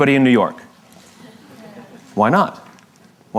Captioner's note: La audiencia se ríe